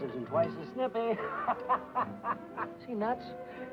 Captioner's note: happy laughing